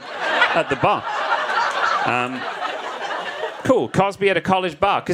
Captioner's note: audience laughs